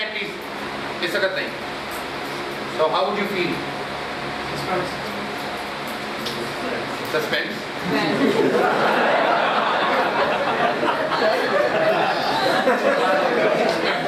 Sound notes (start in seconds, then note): 5.1 laughter. “Insulted.”